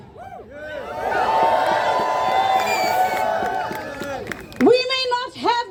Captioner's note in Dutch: Gejuich